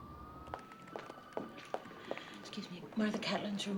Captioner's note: footsteps approaching